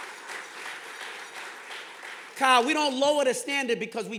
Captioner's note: audience clapping